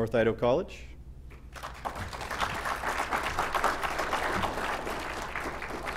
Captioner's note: applause